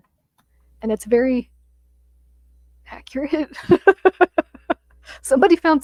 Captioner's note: laughs